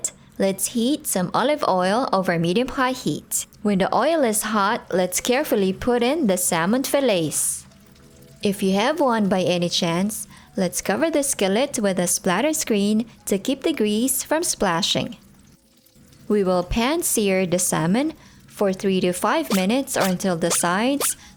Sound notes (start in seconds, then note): 15.2 oil in skillet sizzling